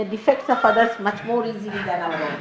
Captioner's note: laughter